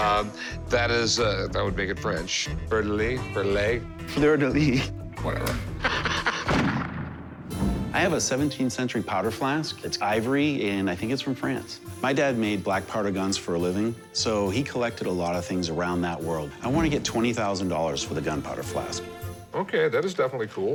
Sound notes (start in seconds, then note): 5.2 laughs; 6.4 gunshot